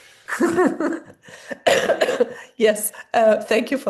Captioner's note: laughter